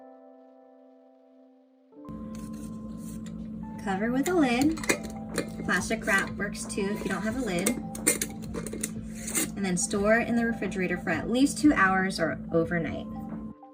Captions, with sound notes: Cover with a lid. [metal lid clanging] Plastic wrap works, too, if you don't have a lid [lid clangs] And then store in the refrigerator for at least 2 hours, or overnight.